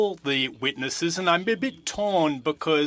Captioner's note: speaking in French